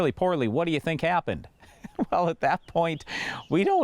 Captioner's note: laughs